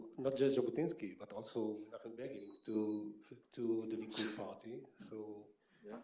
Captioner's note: Hebrew